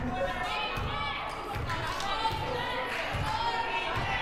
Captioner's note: crowd cheering